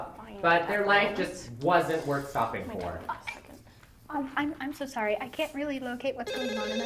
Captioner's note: another phone rings